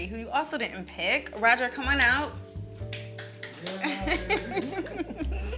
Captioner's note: clapping